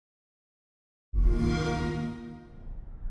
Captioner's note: xbox sound